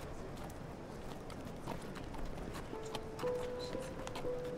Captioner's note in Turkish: At nalı sesi